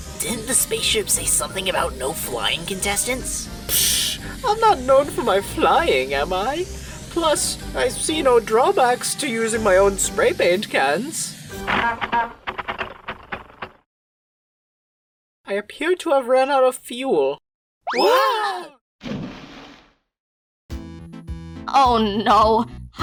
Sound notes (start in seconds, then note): 11.5 Spray Paint's cans sputter; 19.0 splash!